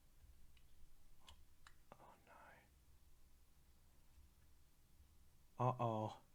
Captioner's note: whispers